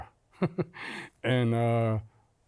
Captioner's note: laughs